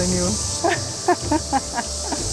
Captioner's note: laughs